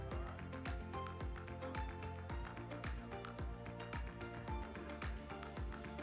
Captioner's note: speaking faintly; upbeat music